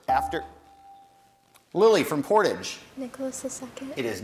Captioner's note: bell rings